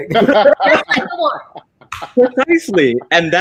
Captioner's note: all laughing